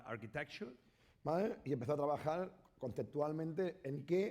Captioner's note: speaking spanish